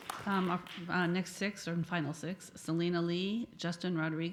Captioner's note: applause